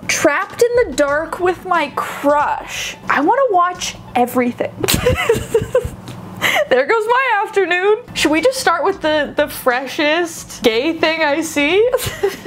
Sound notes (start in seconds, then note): 4.8 laughing